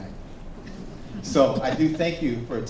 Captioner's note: audience laughs